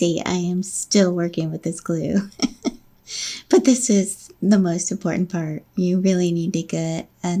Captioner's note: laughing